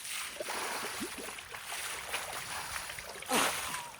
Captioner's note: water splashing